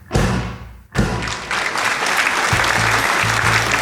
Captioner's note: audience applauding; bright music